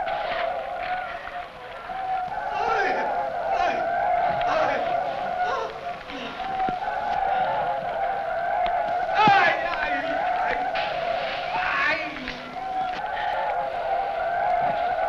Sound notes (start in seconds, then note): 2.7 men shouting; 9.3 men shouting